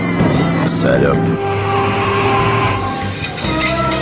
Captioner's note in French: Crissements